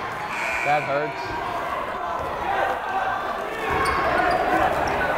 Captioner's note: buzzer blaring